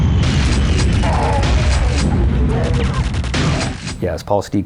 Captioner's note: groans